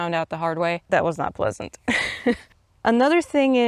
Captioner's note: laughs